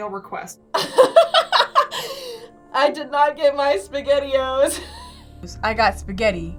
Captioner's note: laughs